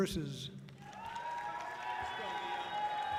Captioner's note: audience cheering loudly